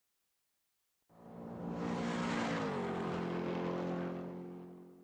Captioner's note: car engine racing